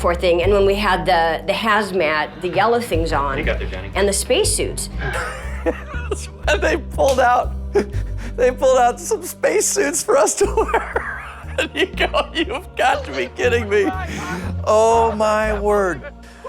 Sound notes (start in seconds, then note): 7.6 laughter